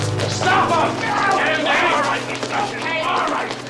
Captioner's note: man grunting